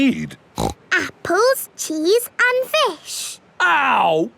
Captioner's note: snorts